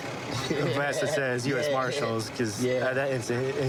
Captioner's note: laughing